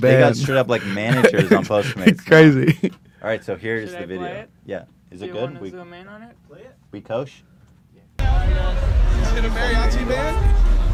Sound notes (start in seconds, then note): 0.2 laughs